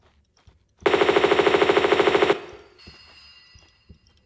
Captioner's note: bratatatatata